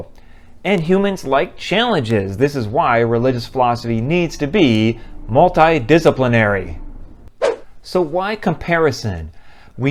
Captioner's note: swoosh